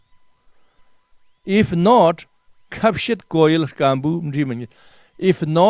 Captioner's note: tibetan